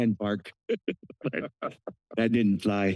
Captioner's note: laughter